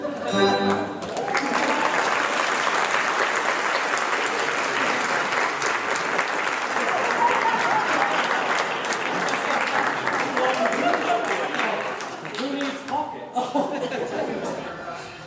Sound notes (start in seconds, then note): 1.0 laughter, applause